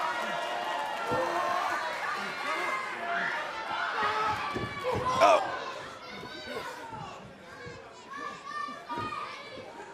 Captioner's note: cheers & applause